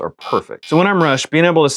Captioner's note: buzzer